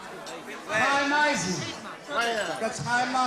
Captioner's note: Yiddish